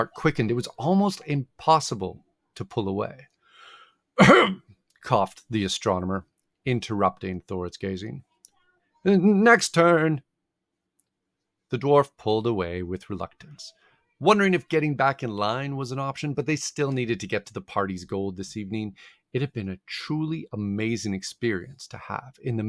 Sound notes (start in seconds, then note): 4.2 coughing sound